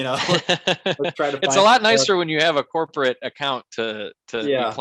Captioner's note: laughs